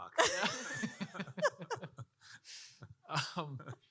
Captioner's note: panel laughing